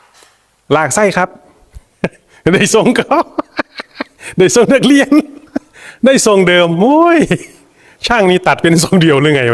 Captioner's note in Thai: เสียงหัวเราะ